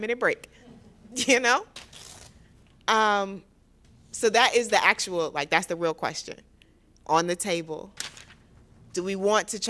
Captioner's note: laughter